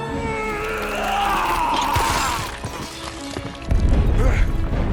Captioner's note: screaming